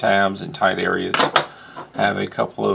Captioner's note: thunk